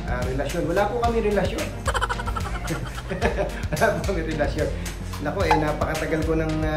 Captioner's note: laughing